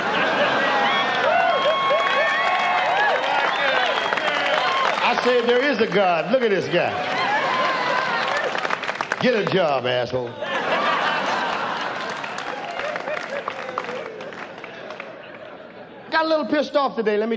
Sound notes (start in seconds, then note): 0.2 audience applauds; 10.3 audience laughs